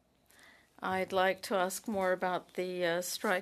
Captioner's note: speaking French